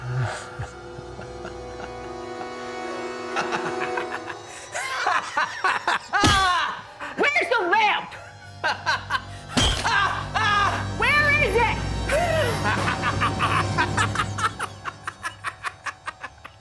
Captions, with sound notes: (Aladdin laughs) (hammer hits) Where's the lamp? (Aladdin laughs) (hammer hits) (Aladdin screams) Where is it? (Aladdin cackles)